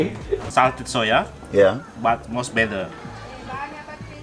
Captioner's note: foreign language